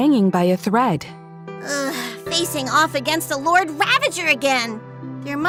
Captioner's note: sigh